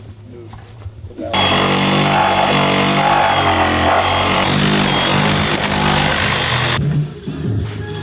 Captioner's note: construction noise